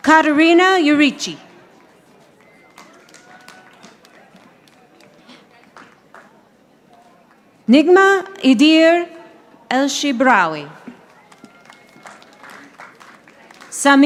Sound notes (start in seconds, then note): 2.4 audience applauding; 10.9 audience applauding